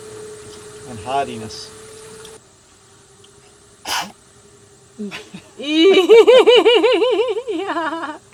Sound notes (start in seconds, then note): 3.8 blowing